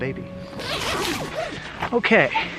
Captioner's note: tent unzipping